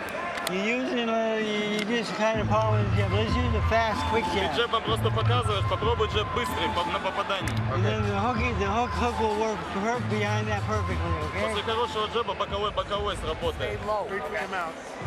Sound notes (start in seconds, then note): 4.3 man speaking Russian; 11.5 man speaking Russian; 13.4 chatter